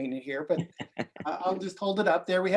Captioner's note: laughing